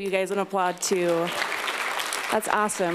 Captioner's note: applause